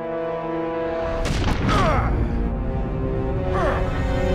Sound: grunting

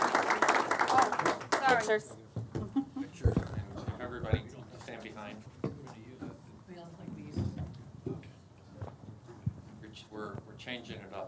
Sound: applause

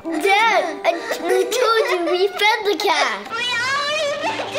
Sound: Chase-man laughing

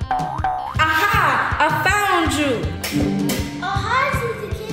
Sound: footsteps boinging

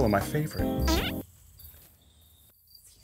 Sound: fart sound

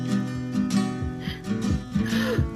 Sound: gasp

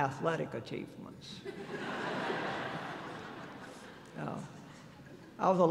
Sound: laughter

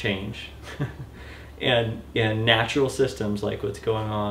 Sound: laughter

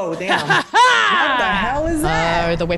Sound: laugh

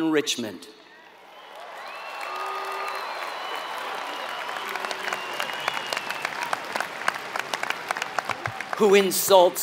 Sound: applause

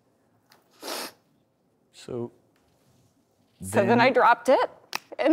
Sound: sniffles

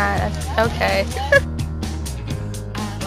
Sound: giggle

